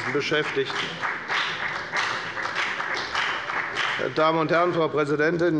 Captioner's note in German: Beifall bei der FDP